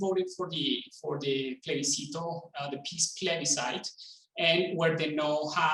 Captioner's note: speaking in foreign language